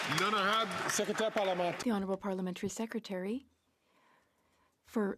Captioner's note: some Applause